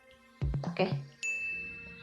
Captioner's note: ding